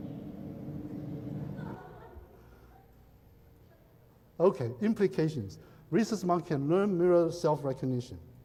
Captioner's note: laughs